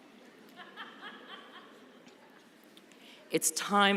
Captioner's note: laughter